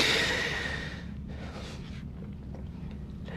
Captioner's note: sighs